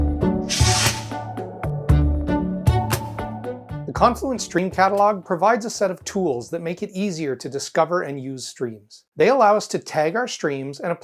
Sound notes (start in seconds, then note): 0.0 mid-tempo instrumental music; 0.4 logo swooshes